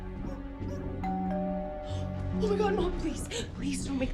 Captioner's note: doorbell ringing